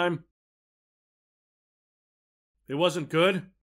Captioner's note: dead silence